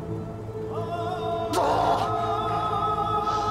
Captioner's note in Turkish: İnilti sesi